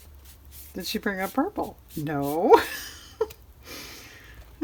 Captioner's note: laughs